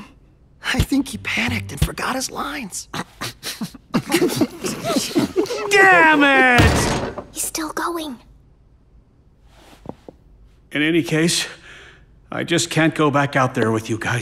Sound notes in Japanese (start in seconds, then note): 2.9 こらえた笑い; 3.0 一同のこらえた笑い